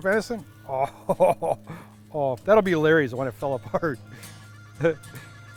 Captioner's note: laughs